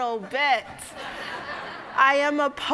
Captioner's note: audience laughing